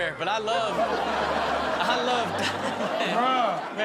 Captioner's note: audience laughs